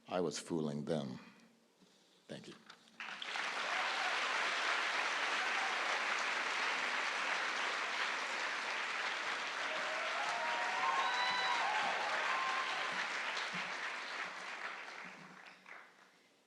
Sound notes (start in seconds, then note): 2.9 applause